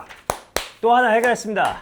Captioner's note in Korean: 짝 짝